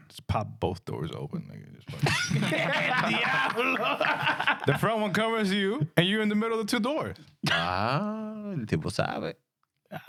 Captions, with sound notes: Just pop both doors open. (Laughing) The front one covers you and you're in the middle of two doors. (Speaking In Spanish)